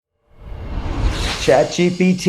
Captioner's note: air whooshing